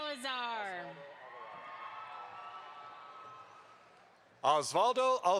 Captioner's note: audience applauds